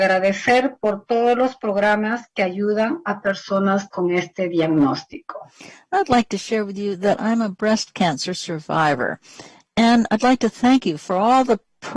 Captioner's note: speaking spanish